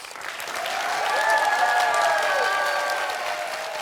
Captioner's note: cheers and applause